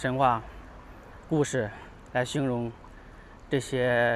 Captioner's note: 英语; 英语; 英语